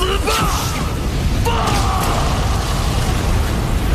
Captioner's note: explosion